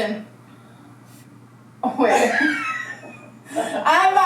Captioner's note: laughs